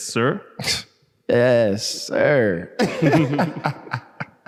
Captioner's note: lacht